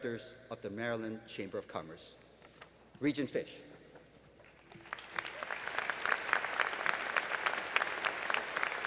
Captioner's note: applause